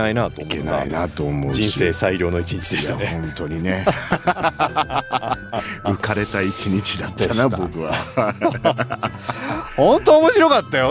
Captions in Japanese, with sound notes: いけないなと思う。 人生量の1日でしたね。 いや、本当にね。[笑い] 浮かれた1日だったな。 僕は本当面白かったよ。